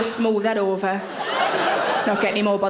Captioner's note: audience laughing